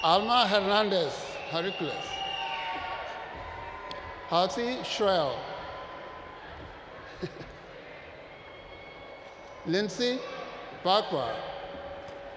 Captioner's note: laughs